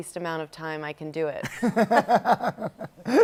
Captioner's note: laughs